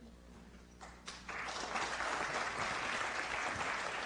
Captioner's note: applause